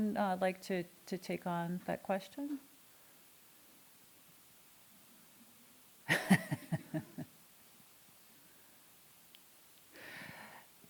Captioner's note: laughing